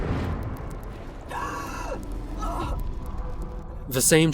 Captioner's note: gasp